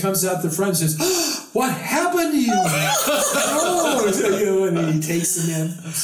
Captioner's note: gasp!